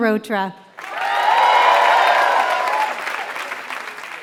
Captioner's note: applause